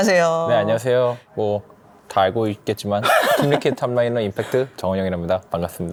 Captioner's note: laughs